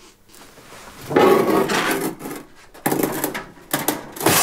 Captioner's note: loud scraping and cracking